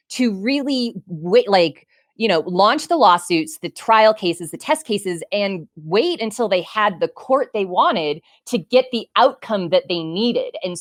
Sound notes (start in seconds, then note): none